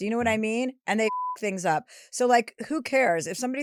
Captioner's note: beep